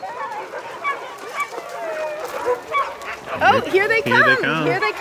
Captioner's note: dog barking